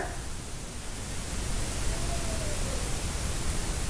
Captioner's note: faint Voice